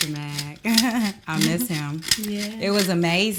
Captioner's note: Kellita laughs